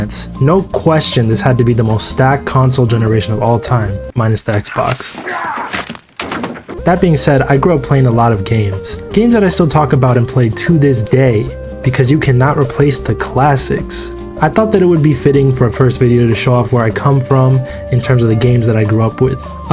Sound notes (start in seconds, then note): 5.2 Walter grunting; 5.2 pizza hitting the roof